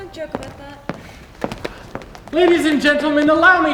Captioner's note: footsteps exiting stage